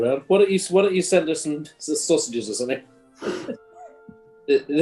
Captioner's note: chuckling